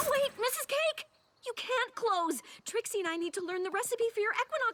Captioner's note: poof